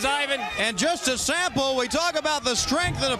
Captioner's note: crowd chatter